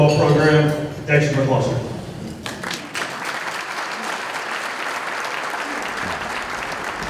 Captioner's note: applause